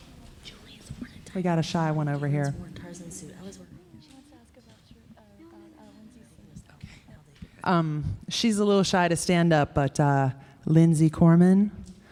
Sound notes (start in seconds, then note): 0.7 indistinct conversation; 3.4 indistinct conversation